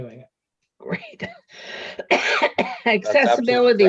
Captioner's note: coughing